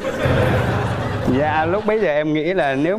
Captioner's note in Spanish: risas